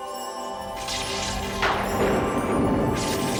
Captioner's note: thunderclap; suspenseful music playing